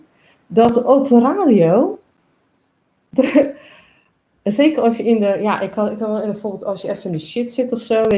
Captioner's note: laughs